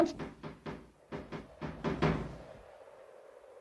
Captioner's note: banging on door